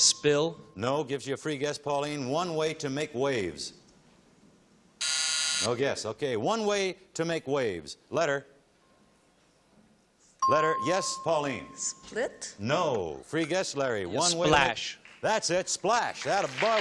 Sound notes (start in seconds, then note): 5.0 buzzing